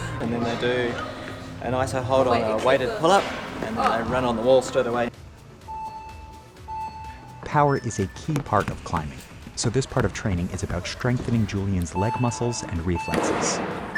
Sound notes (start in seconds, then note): 5.6 countdown beeping